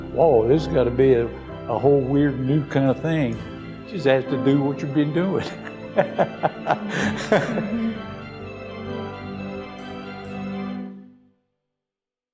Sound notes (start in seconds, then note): 5.4 laughs; 9.0 lighthearted music